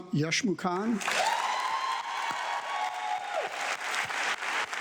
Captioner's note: audience clapping